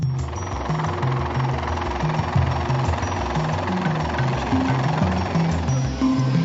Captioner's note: helicopter whirring